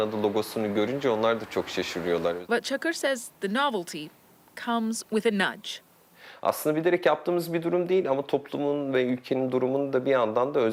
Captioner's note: speaking foreign language